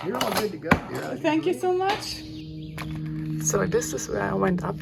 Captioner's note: birds chirping